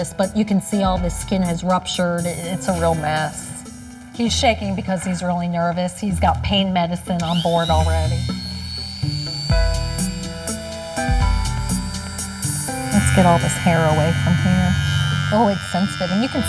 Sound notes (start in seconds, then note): 9.5 shaver whirring; 9.5 upbeat music